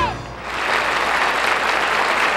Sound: audience applauds

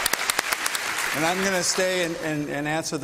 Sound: applause

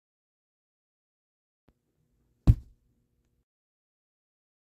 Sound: drop

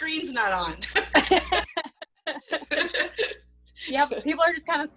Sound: laughter

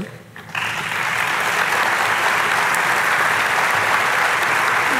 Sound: audience clapping

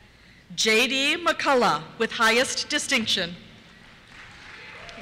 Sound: cheers

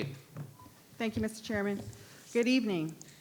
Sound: microphone beeping

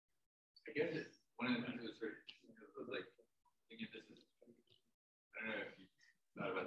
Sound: speaking away from the mic

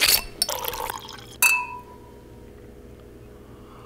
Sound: wine flowing

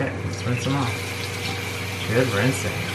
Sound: water splashes

